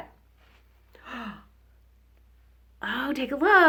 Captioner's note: gasps